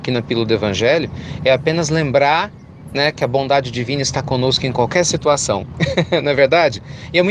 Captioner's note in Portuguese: Risos